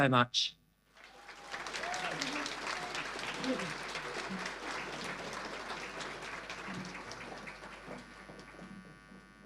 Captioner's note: audience applause